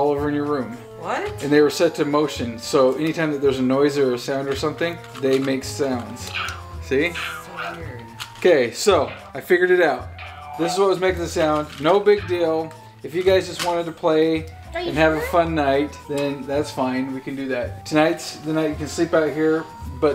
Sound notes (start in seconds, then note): 6.5 monster chanting